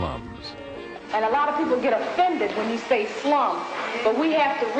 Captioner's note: female voice